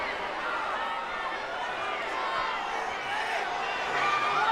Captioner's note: crowd chattering